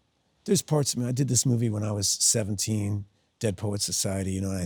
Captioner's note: none